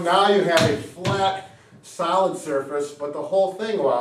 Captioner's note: hands tapping